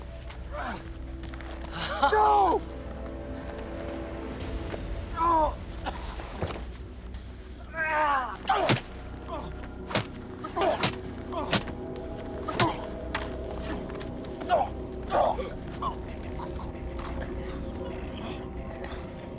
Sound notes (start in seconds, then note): 1.8 York laughing; 7.7 groans; 8.2 groaning